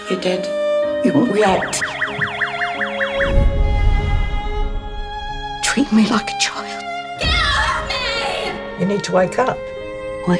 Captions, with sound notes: You're dead. React! (siren gun) (classical music) - You treat me like a child. - Get off me. - You need to wake up.